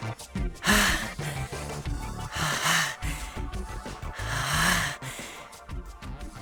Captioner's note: very strained breathing